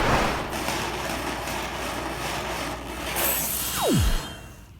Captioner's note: loud rattling